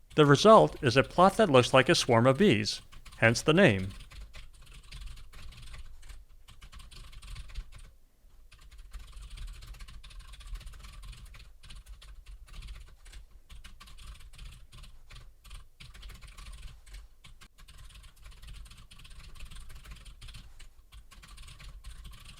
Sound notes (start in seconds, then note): 9.1 typing sounds